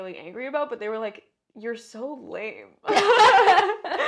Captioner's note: laugh